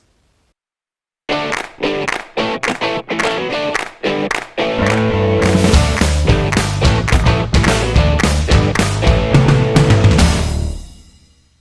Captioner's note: claps